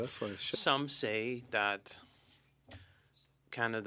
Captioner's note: speaking French